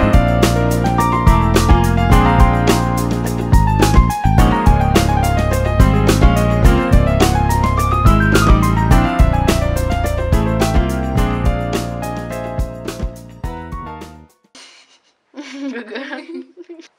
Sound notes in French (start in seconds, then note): 15.3 rires